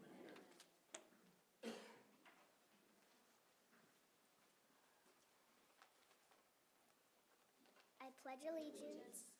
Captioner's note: silence